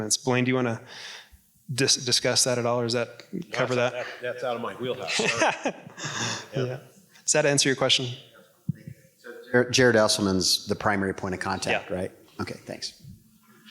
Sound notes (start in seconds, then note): 4.8 laughing